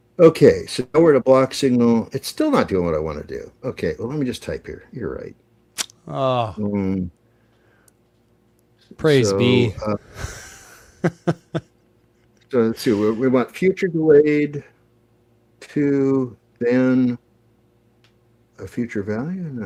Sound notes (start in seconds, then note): 10.2 laughter